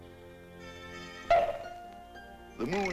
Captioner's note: bonk